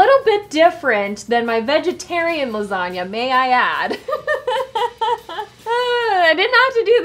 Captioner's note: laughs softly